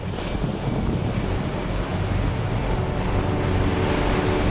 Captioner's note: water rustling